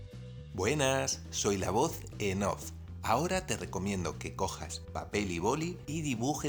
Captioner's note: voiceover